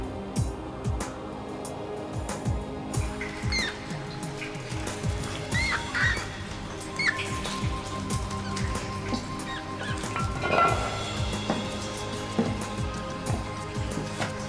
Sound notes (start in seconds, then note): 3.3 rat squeaking; 10.2 metal scraping